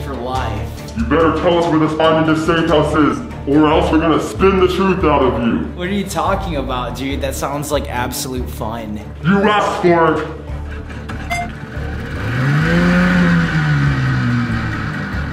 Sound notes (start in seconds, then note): 11.3 beep; 12.3 engine starting